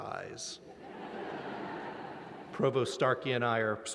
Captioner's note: laughter